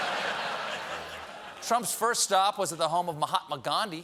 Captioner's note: laughter